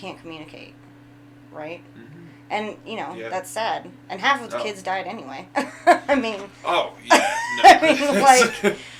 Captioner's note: chuckling